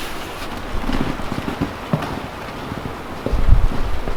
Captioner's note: snow crunching